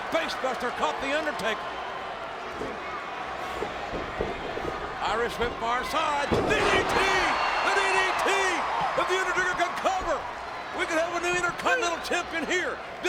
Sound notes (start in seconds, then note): 7.3 audience cheers